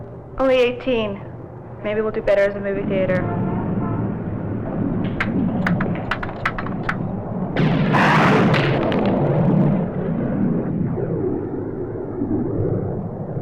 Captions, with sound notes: - Only 18. Maybe we'll do better as a movie theater. (thunder crashes)